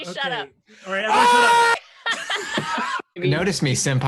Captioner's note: yelling before his mic immediately overloads